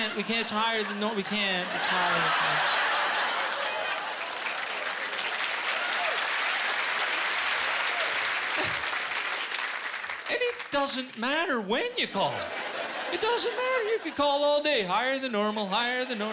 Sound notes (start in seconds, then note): 2.7 laughter; 3.9 applause